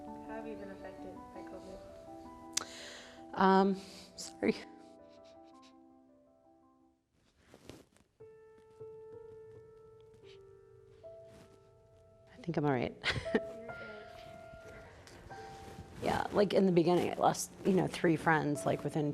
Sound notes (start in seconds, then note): 5.4 slow music; 14.4 sighs